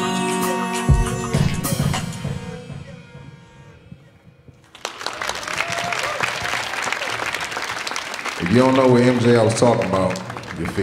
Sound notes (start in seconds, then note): 4.6 audience cheering